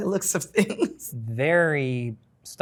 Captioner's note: participant laughs